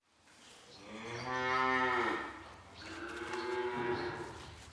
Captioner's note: cows mooing